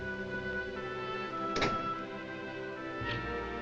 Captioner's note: door closes